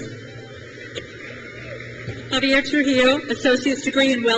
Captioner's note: crowd cheers